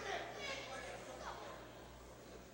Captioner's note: crowd chatter